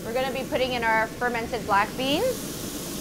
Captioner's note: pork sizzles